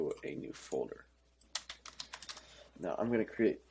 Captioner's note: typing